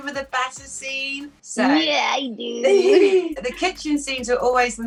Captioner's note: chuckles